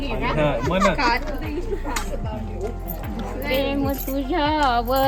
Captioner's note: grandma laughs